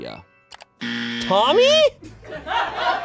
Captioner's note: buzzer blares; audience laughing